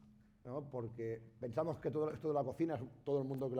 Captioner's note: speaking spanish